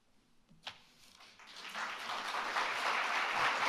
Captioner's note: applause